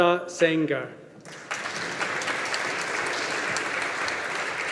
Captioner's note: audience applauding